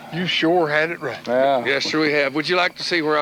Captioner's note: chuckles